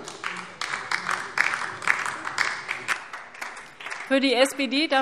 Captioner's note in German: Beifall DIE LINKE